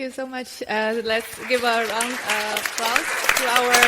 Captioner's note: audience applauds